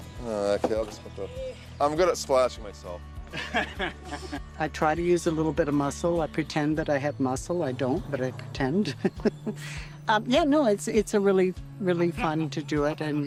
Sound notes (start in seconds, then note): 3.3 volunteer laughing; 8.9 chuckling